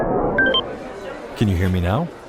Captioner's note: device beeping